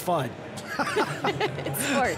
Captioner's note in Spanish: se ríen